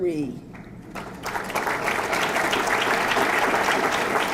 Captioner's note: audience clapping